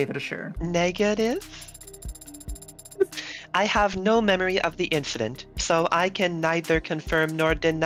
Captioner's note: in very text-to-speech voice